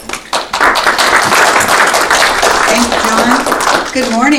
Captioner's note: audience applauding